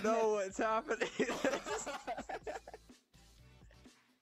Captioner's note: laughing